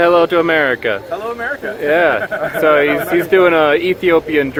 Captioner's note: group laughs